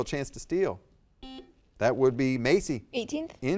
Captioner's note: buzzer dings